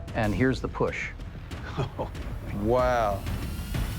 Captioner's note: chuckles